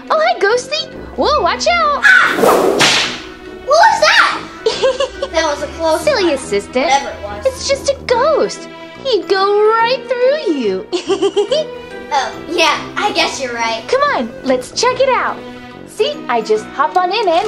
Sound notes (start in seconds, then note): 2.2 whip cracking; 4.6 Vampirina laughing; 11.0 Vampirina giggling